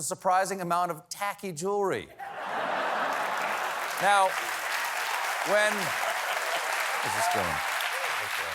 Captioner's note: laughter